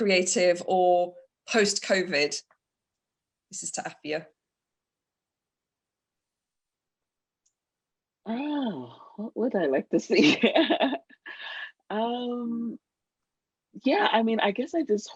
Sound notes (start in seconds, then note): 5.0 sighs; 8.7 laughs